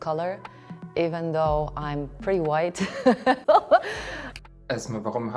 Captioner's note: laughs